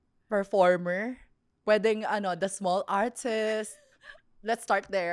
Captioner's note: laughs